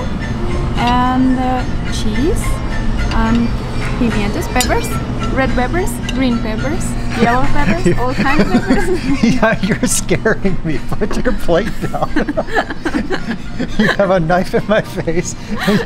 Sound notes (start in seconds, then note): 11.5 laughing